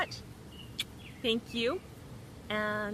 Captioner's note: kissing